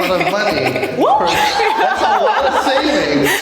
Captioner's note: all laugh; exclaims